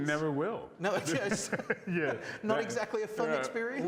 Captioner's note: laughs